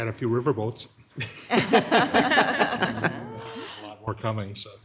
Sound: group laughing

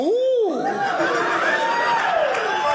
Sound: audience laughing

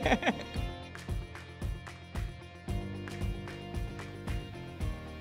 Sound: laughs lightly

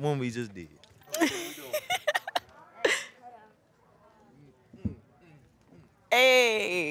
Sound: laughing

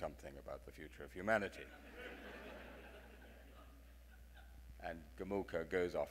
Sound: audience laughing

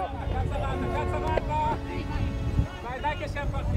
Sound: people cheering

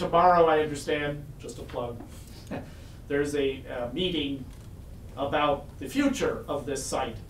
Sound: chuckles

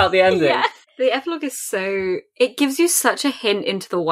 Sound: laughing

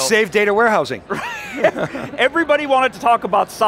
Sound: group laughing

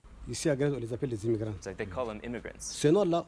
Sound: speaks in a foreign language; speaks in a foreign language

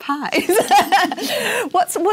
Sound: laugh

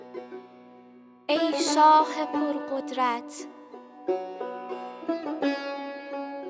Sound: woman recites in foreign language

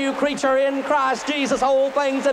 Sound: applause

